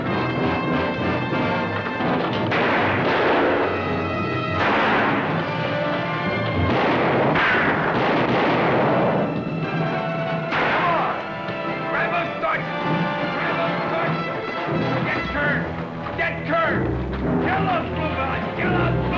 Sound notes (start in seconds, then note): 3.1 gunshots